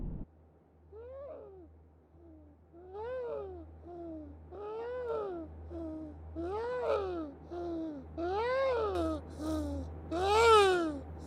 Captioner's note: sobbing